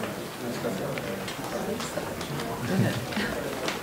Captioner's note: chatter